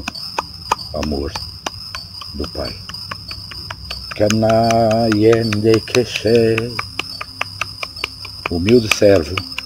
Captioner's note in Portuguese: vibração